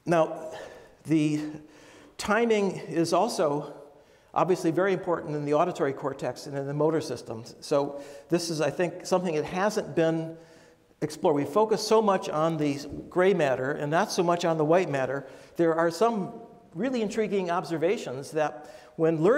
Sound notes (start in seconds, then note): none